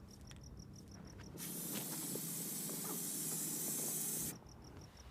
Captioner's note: paint sprays